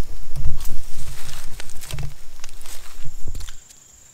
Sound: rustling in leaves

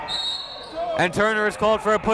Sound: whistle

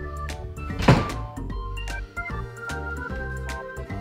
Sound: door closing

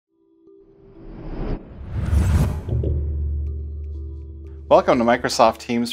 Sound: light music; dramatic whooshing

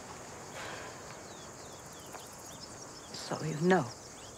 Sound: sighs

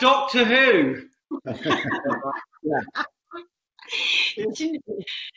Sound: group laughs

